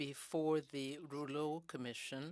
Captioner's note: speaking in french